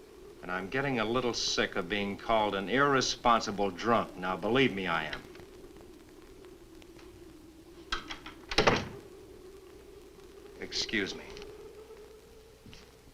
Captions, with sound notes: And I'm getting a little sick of being called "An irresponsible drunk." Now, believe me I am. (door opens) (door closes) Excuse me.